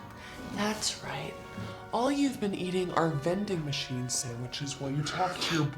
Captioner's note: Ginger's voice distorts